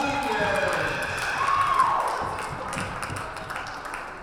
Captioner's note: cheering and applause